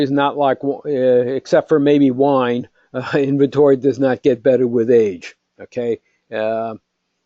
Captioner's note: laugh